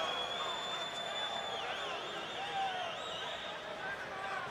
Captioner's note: fans whistling